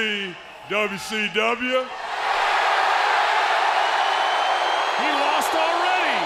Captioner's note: crowd cheering